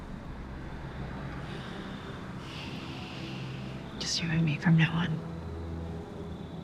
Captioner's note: breathes deeply